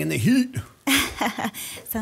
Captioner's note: chuckle